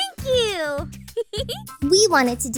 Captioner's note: chuckles